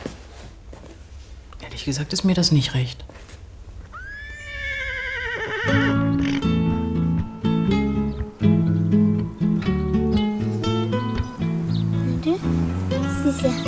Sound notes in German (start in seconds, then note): 3.9 Entferntes Wiehern; 5.8 Ruhige Musik